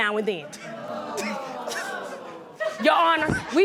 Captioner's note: audience exclaims